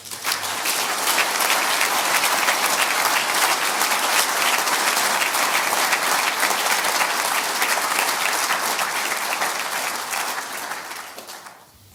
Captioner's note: audience applause